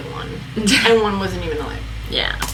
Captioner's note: laughs